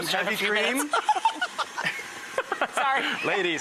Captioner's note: laughter